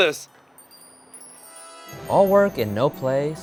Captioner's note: magical twinkling